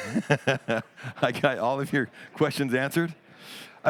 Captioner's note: laughs